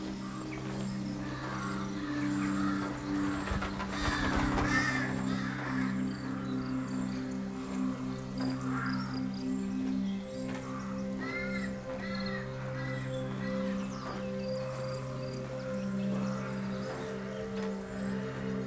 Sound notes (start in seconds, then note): 13.4 footsteps